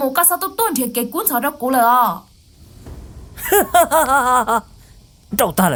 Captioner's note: laughs